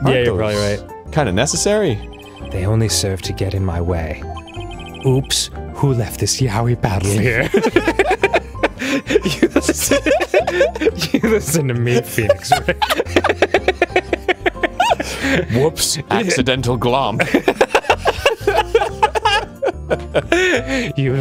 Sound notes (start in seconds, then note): 7.0 laughing; 7.5 both laughing; 10.0 laughing; 10.2 both laughing; 11.8 laughing; 12.9 both laughing; 17.2 both laughing